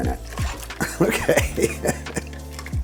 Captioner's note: laughs